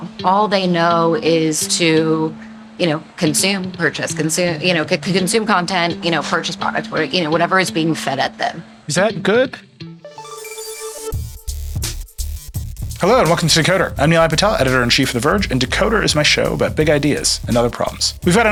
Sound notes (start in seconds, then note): 9.8 mellow jazzy music; 10.1 logo tinkling